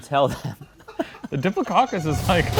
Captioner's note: both laughing